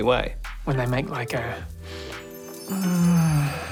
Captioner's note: moans